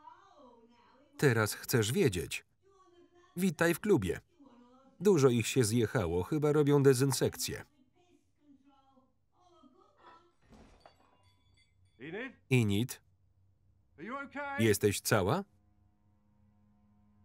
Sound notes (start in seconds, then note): 10.4 loud crash; 10.5 glass breaking